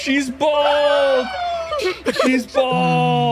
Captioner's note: laughs